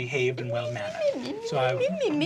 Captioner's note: mocking